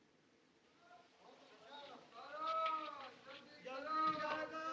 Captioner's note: men Shouting In Distance